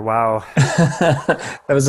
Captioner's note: laughs